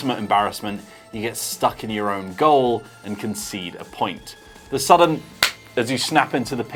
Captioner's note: clap hands